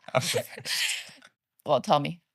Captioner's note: both laughing